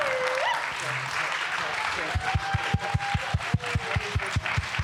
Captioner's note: applause